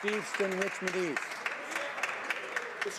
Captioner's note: some Applause